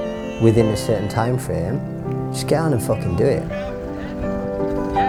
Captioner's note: excited banter